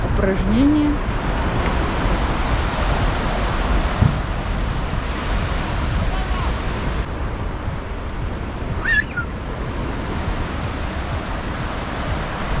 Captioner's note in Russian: шум моря